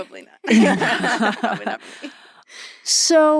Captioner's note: laughing